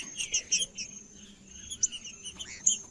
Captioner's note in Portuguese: trinca ferro cantando